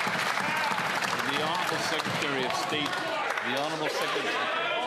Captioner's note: some Applause